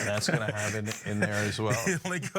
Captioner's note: laugh